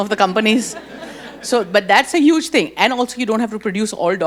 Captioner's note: audience chuckles